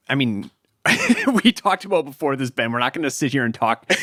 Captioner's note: chuckles